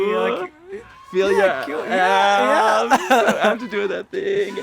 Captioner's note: excited screams